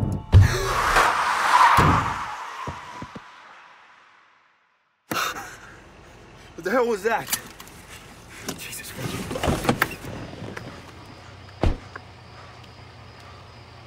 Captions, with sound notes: [tires screech] [thud] [gasping] What the hell was that? Jesus.